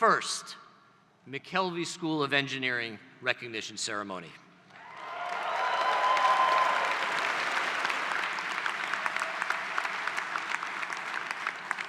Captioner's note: applause